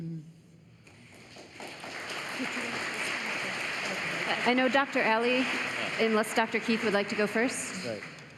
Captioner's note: applause